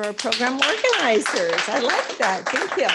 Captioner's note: applause